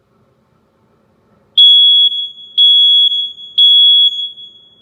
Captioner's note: beep, beep, beep